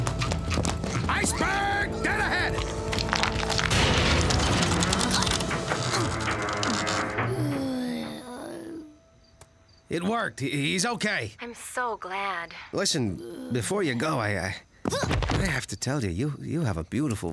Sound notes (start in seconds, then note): 4.2 metallic creaking, groaning; 7.1 relived moan